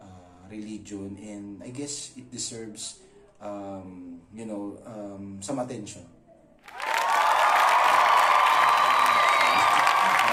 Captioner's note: cheering